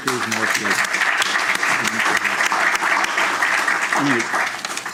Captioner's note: applause